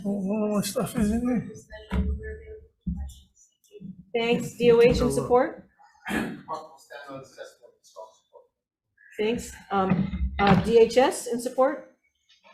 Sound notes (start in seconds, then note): 7.4 speaking quietly